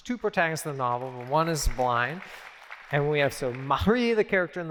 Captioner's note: applause